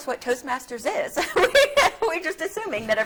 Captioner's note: laughing